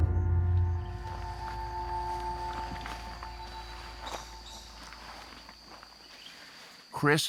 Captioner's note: birds chirping